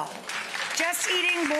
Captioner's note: audience clapping